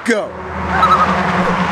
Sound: loon calls

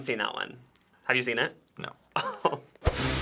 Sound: laughs

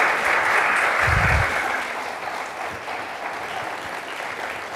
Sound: applause

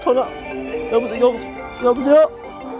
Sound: the eighth telephone bell; the ninth telephone bell; the 10th telephone bell

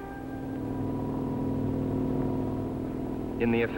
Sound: rotor blades whirling

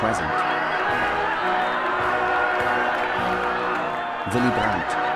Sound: people cheering

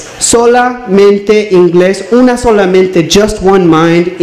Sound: speaks in Spanish

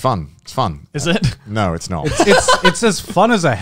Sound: laughing

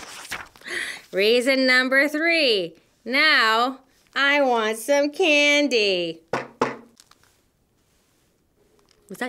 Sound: knock knock!

